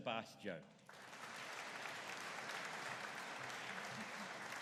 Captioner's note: audience applauding